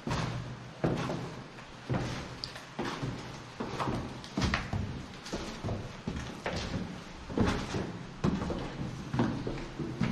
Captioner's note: sound of footsteps